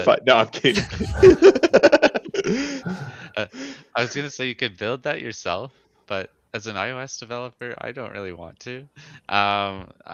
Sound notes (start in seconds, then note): 0.6 laughs